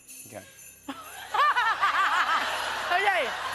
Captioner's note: laughs